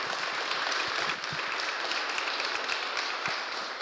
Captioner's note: applause